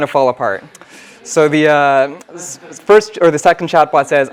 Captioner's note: laugh